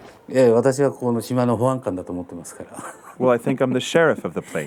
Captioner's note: speaking foreign language